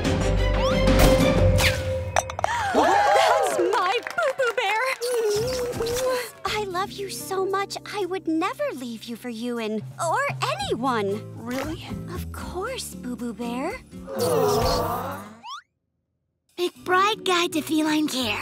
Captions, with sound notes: [cheering] That's my Boo-Boo Bear! I love you so much, I would never leave you for Ewan. Or anyone. - Really? - Of course, Boo-Boo Bear. Aww... McBride Guide to Feline Care,